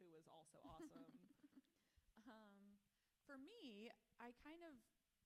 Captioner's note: author laughs